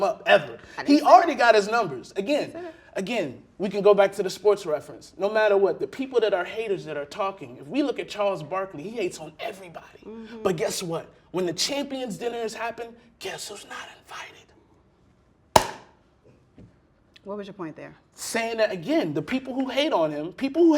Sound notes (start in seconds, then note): 15.6 loud click